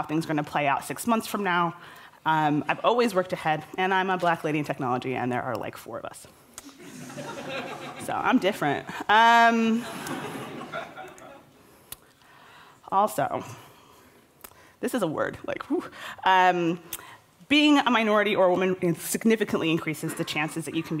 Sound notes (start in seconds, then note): 12.2 laughter